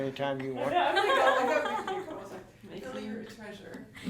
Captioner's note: laughing